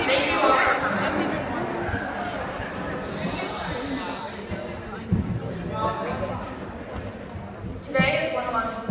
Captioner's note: various students chatter while girls at mike shush them